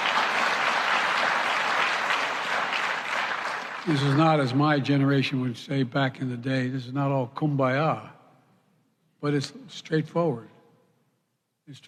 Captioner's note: applause